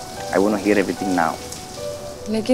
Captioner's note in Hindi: none